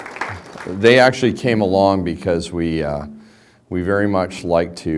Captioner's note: applause